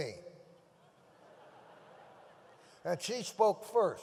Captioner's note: audience laughs